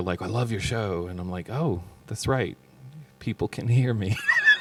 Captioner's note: laughs